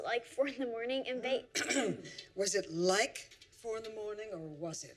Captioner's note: clears throat